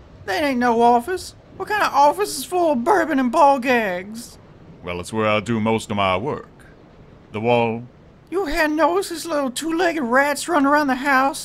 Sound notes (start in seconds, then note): none